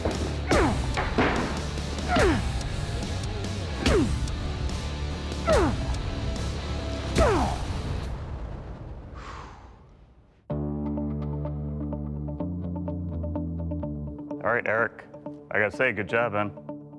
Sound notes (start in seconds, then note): 0.1 grunting; 9.1 exhales; 10.1 dramatic music